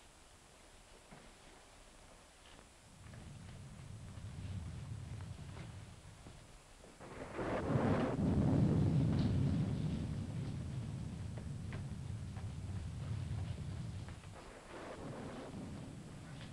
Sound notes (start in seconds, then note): 2.9 rain pattering; 2.9 thunder rumbling